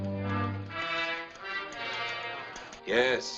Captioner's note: typewriter clacking